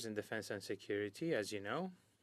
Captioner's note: speaking French